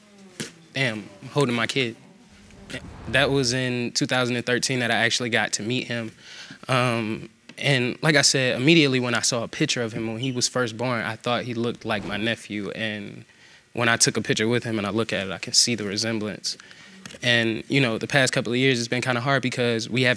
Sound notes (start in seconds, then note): none